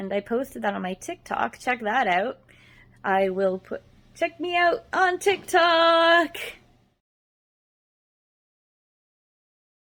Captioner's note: none